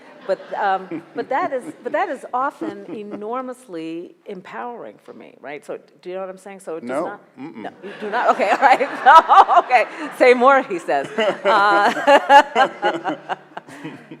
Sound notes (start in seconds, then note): 10.6 laughing